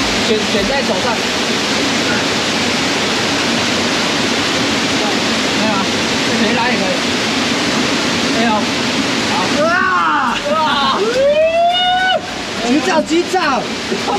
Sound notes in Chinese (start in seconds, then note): 9.5 尖叫聲